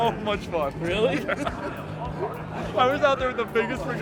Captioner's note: laughs